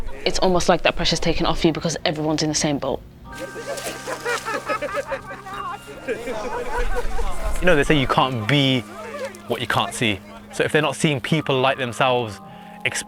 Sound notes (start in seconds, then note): 3.3 hikers laughing and chatting